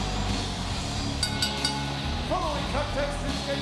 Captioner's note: bell ringing